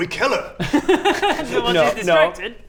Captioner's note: unsurprised giggles